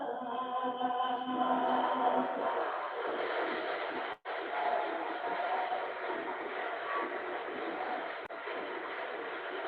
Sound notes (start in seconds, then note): 2.2 applause